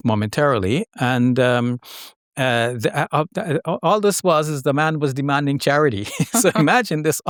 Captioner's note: laughs